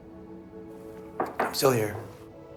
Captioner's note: glass on counter